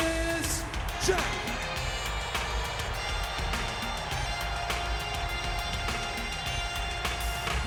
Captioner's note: audience cheers; upbeat music continues